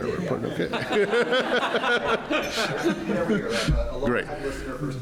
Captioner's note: laughter